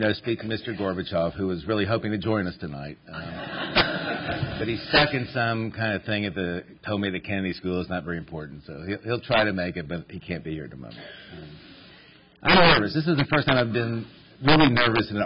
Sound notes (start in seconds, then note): 3.2 laughter